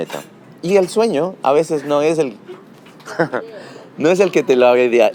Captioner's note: laughs